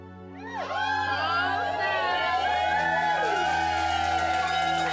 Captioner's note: cheering